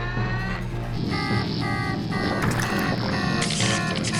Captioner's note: alarm beeping; electricity sparking